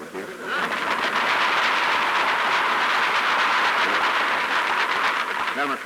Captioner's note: applause